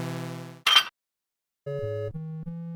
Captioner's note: clank